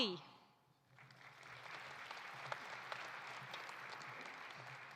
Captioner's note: audience applauding